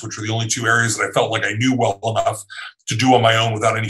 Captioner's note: laughing